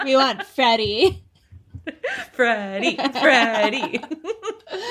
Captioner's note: chanting